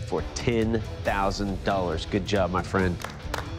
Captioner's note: applause